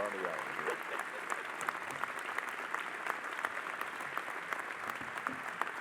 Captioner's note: audience applauding